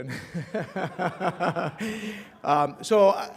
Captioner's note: laughter